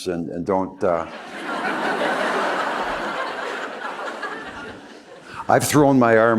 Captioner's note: laughter